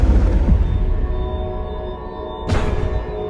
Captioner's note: loud thumps